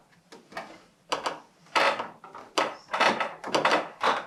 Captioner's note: stairs creak